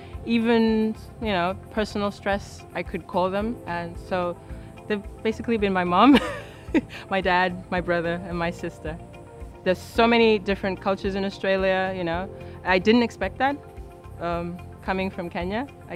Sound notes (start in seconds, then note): 6.1 laughs